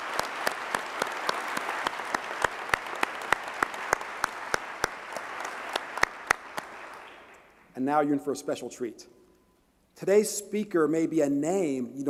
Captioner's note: applause